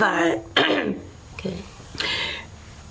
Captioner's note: clears throat